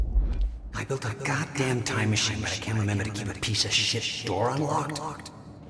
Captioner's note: as an echo from the past